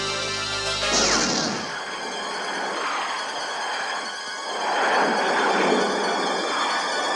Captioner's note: tense music; missile firing